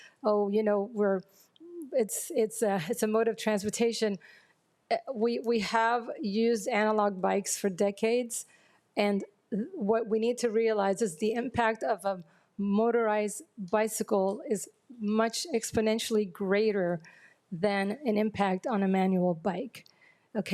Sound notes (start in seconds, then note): none